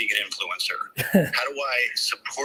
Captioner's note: chuckles